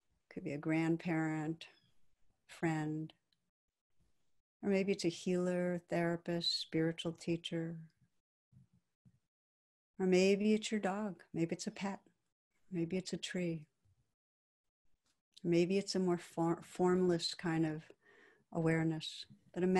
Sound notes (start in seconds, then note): none